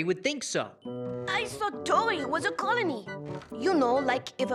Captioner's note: french accent